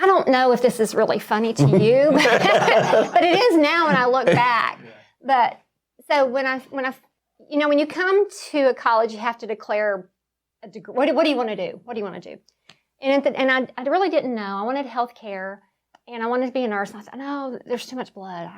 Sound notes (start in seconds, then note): 1.6 laughing